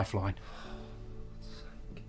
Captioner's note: sighs